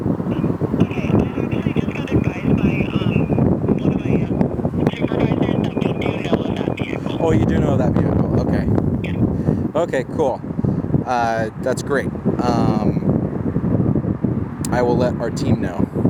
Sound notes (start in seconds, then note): 12.0 wind whooshing